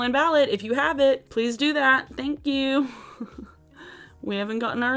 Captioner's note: chuckles